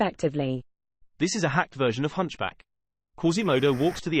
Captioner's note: british male voice